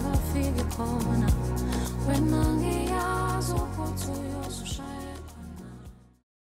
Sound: foreign language

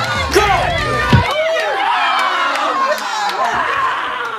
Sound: raucous cheering

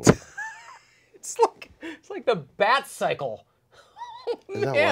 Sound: laughs

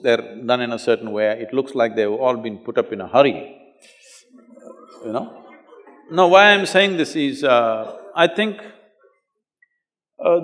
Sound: few Laugh

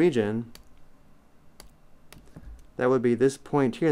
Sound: clicking

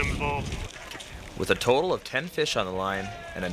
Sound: voiceover

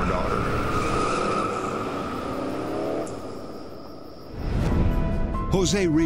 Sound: tires screech

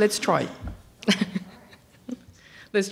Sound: laughs

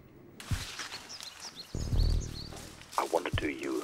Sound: hand rustling; birds tweeting

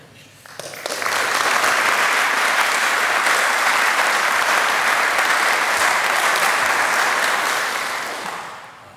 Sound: applause

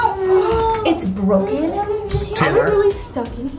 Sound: gasps

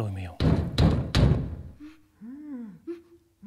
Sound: banging

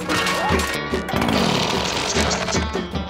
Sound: clatter; zips up; reef blower activates and dies

